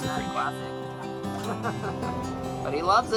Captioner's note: laughter